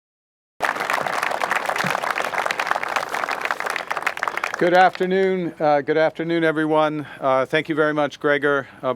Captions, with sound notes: (Applause) Good afternoon. Good afternoon, everyone. Thank you very much, Gregor.